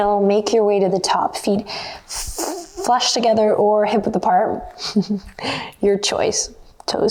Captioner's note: chuckles